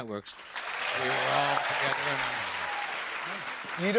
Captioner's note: cheers and applause